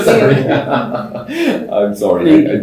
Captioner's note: laughter